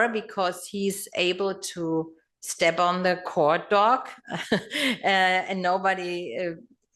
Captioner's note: laugh